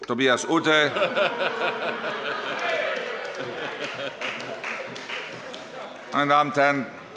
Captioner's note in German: Heiterkeit